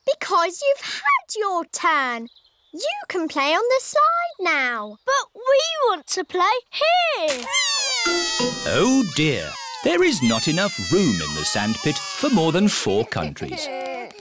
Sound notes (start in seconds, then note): 7.4 crying